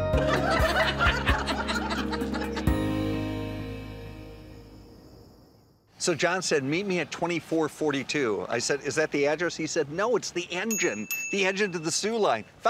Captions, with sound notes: (ladies laughing) - So John said, "Meet me at 2442." I said, is that the address? He said, "No, it's the engine." (bell rings) The engine to the Sioux Line.